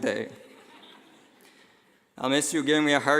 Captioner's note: laughing